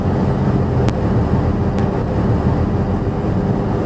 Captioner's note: engine, air conditioner blower on "high" sounds